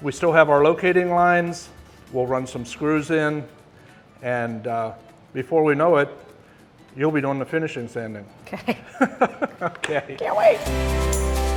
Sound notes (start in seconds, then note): 8.6 laughing